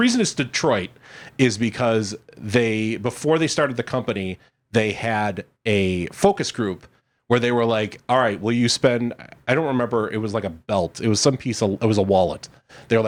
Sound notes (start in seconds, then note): none